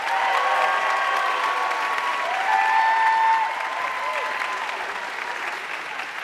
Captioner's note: audience cheering and applauding